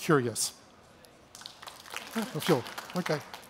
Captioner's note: clapping